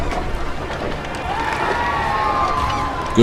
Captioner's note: cheers